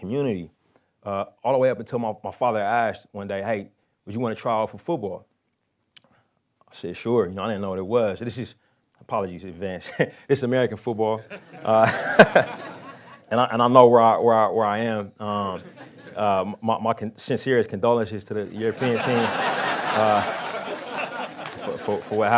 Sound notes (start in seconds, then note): 11.2 lauhing; 18.4 crowd laughing